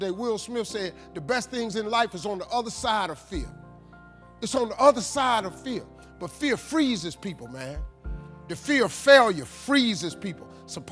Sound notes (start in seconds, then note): none